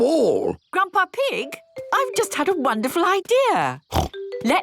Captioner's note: snort